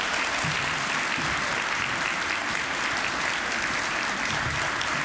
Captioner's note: applause